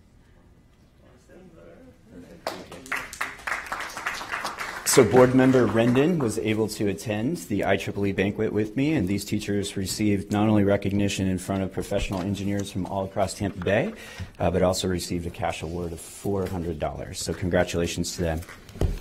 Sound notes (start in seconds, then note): 2.4 applause